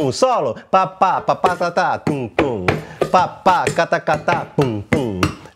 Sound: vocalizes rhythm

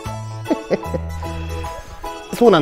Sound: laughs

